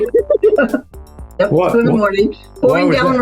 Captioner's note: both laughing